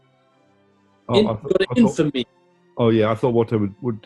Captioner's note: raps